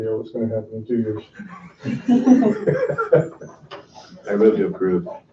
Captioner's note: laughing